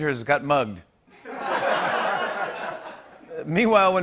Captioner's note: laughter